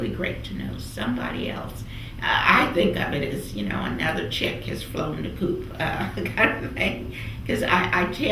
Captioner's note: laughs